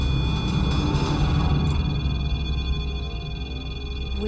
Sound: beeping

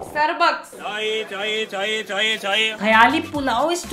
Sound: chai selling chant

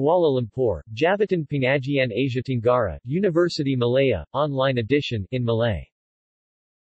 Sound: in Malay

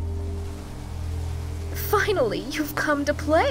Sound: flies buzzing

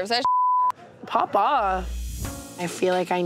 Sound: beep

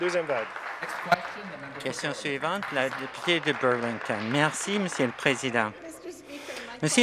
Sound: some Applause

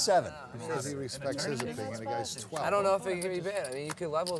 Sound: table chatter

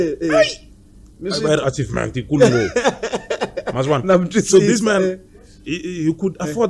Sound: laughs

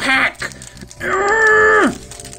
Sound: strained growl

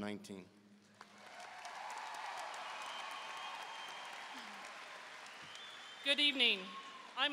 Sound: audience cheering and applauding

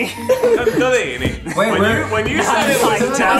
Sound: laughing

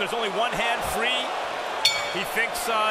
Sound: bell dings

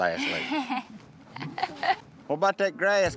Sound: chuckles

